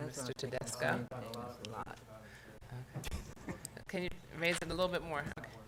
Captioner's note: quiet chatter